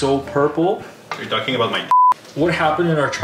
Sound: beep

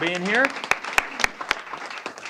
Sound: applause

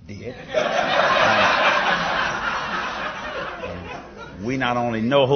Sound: laughter

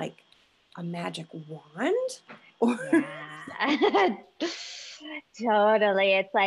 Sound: laughing

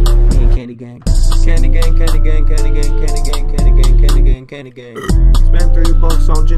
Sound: burp

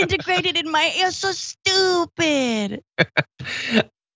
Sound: laugh

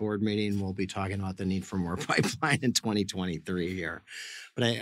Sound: laughs

